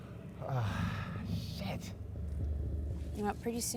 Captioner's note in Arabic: آهات